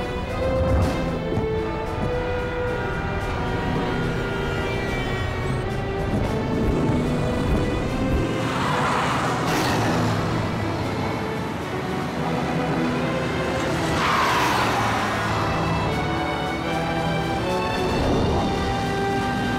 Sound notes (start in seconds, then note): 2.9 horns blare; 8.5 tyres screech